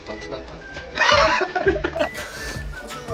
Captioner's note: 爆笑